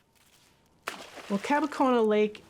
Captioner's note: water splashing